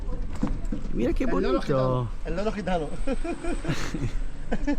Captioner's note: laughs